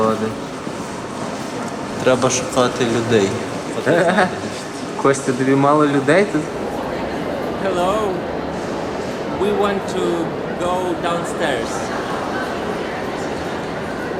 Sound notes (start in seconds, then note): 3.6 laughing; 12.3 crowd noise